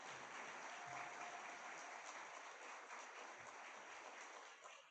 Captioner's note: audience clapping